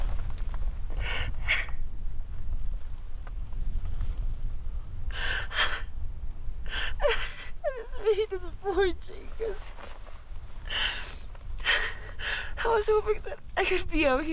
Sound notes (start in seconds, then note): 0.2 crying